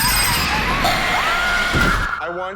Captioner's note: high squealing; screaming and terrifying animatronic sounds